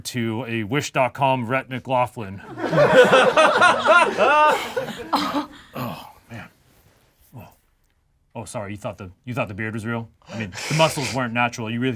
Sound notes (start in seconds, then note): 2.4 group laughs